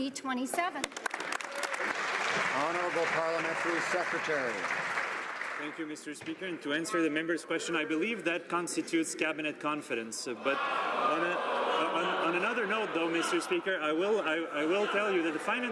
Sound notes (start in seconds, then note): 5.6 some Applause